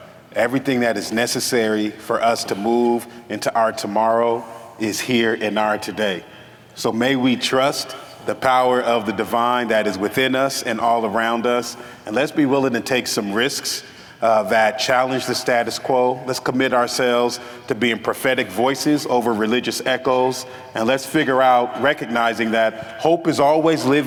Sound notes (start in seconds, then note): none